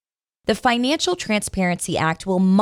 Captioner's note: voiceover